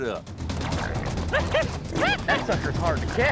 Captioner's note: shouting